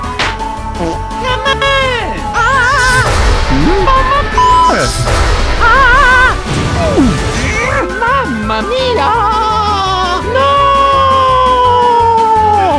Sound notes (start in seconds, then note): 0.0 tap; 7.1 grunt